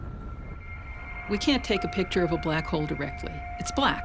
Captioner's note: none